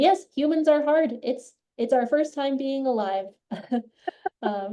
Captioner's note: laughs